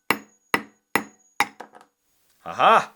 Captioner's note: nail hammering